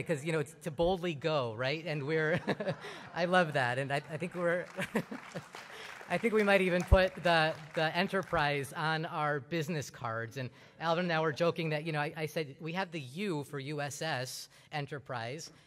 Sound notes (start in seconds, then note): 2.2 laughter; 5.0 applause